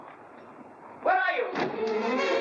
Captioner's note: doors burst open; playful dramatic music